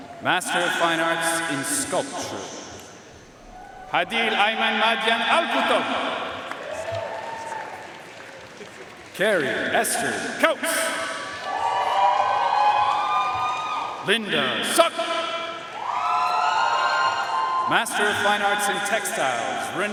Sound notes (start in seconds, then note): 0.0 audience cheering and applauding; 6.8 audience cheering and applauding; 10.7 audience cheering and applauding; 15.6 audience cheering and applauding